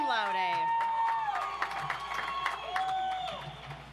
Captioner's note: audience applauds